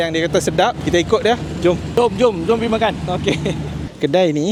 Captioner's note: laugh